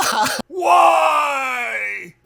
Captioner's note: laughs